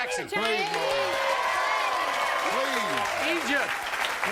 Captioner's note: audience cheering and applauding